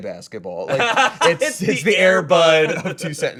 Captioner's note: laughs